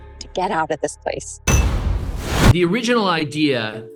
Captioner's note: glasses clink